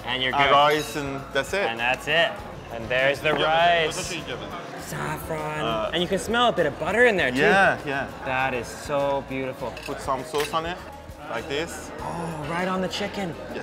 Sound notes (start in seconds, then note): 3.8 speaking foreign language